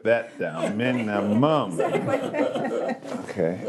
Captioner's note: all laughing